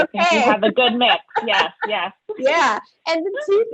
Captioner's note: laughing